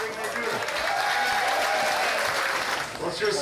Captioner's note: crowd cheers